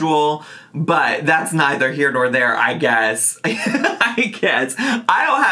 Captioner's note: laughs